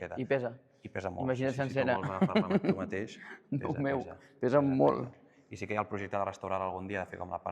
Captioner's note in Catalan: rialles